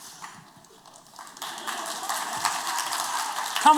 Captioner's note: applause